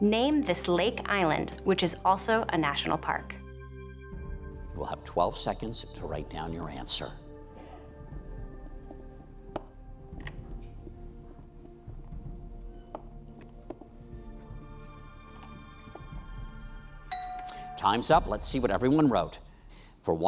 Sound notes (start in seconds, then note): 17.0 bell dings